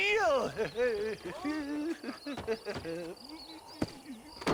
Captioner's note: laughs